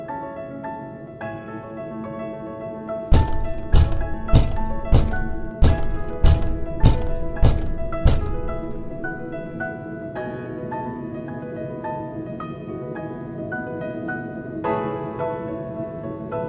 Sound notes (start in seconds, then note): 3.1 door banging; 8.8 gentle piano music